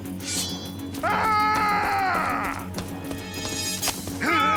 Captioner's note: yelling; grunting